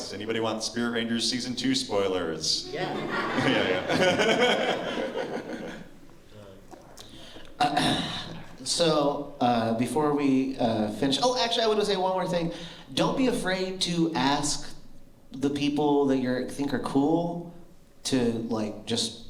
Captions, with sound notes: Anybody want “Spirit Rangers” season two spoilers? [laughter] - Um, so before we finish. Oh, actually, I want to say one more thing. Don't be afraid to ask the people that you think are cool to like, just.